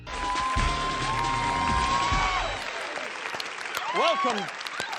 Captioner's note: applause, theme music